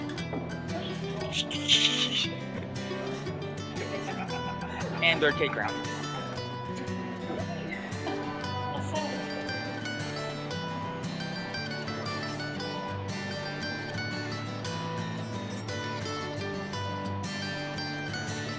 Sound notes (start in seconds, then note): 0.7 laughing offscreen; 1.2 evil laughter continues